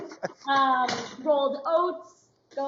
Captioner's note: laughs